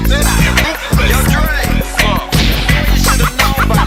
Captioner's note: bang